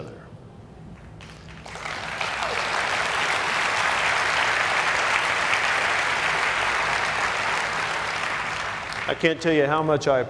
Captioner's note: applause